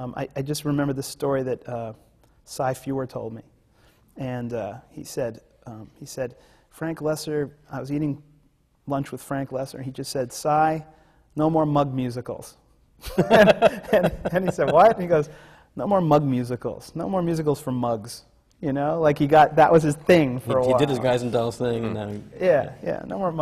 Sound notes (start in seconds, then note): 13.0 laughter